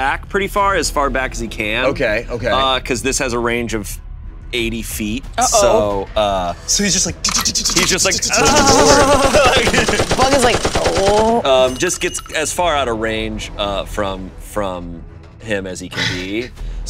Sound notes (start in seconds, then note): 7.3 imitates machine gun firing; 8.4 machine gun firing